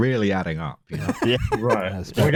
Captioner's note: laughs